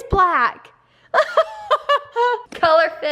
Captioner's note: laughs